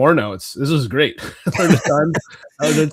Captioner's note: both laughing